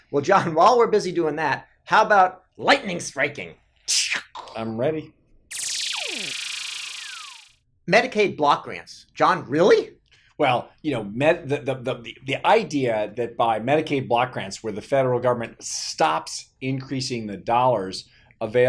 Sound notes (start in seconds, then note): 5.5 electronic whooshing